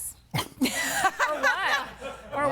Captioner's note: laughing